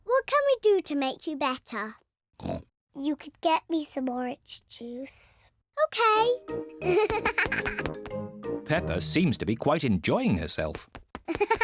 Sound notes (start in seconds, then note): 2.4 oinks; 6.8 giggles